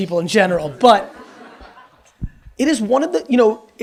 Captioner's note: audience laughs